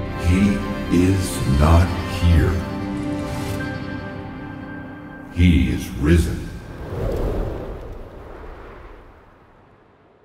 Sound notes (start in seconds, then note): 6.3 wind rushing